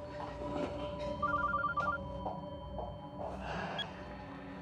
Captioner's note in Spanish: Suena el teléfono; Bip